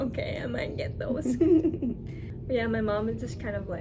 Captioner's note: laughs